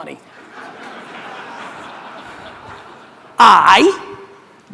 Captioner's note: audience laughter